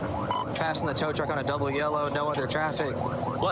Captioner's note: warning sirens